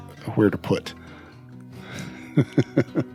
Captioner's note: laughs